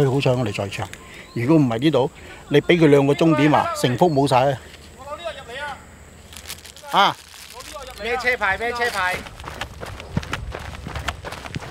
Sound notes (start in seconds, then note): 5.0 farmers shouting